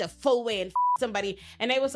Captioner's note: beep